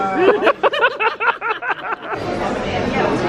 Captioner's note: both laugh